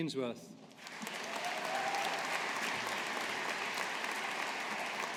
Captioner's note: audience applauding